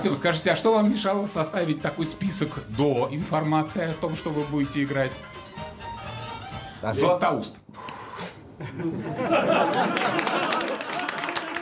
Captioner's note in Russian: смех